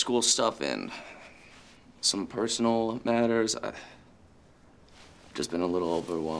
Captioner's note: sighs